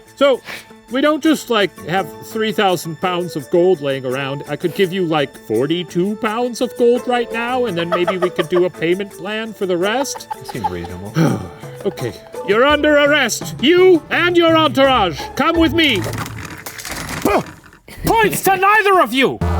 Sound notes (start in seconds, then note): 10.1 sighing